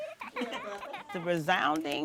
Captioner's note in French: gloussements de bébé; Rires